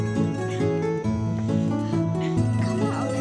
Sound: panting

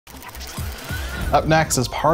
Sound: gears buzzing

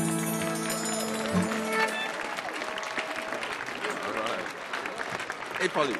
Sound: audience applauding

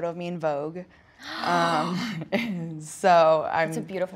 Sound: gasping

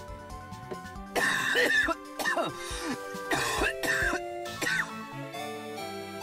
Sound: disturbing cough noises

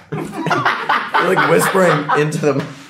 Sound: Gaten laughs

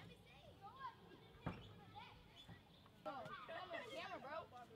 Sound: indistinct conversation

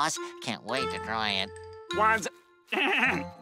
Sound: clearing throat

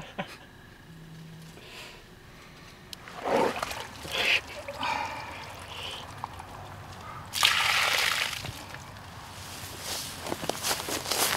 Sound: crickets

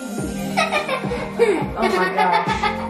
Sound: pop music; laughs

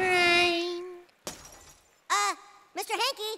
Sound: glass shatters

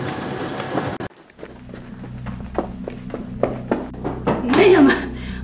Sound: printer hums; running footsteps

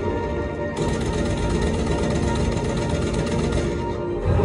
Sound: gunfire

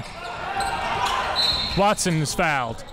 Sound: whistle blows

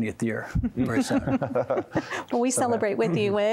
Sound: laughter

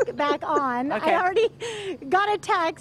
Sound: laughter

